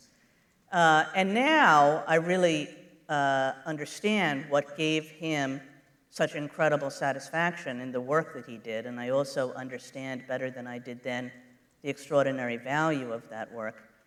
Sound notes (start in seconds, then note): none